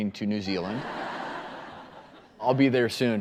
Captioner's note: audience laughing